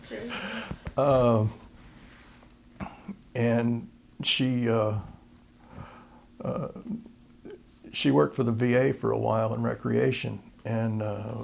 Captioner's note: laughter